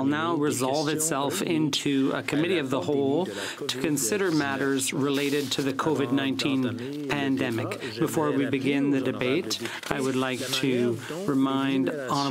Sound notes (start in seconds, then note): 2.5 speaking French